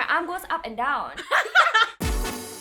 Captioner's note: everyone laughs